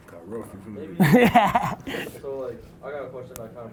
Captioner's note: laughs